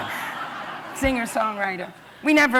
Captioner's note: laughter